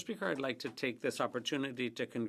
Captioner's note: speaking French